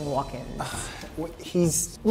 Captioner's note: sighs